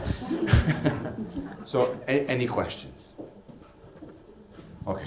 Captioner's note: laugh